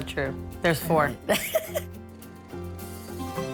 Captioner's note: laughing